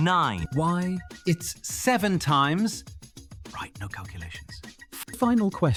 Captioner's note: whispers